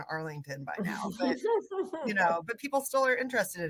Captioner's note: laughter from others